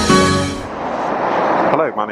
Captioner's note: plane whooshes